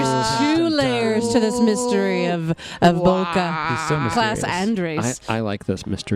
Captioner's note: laughing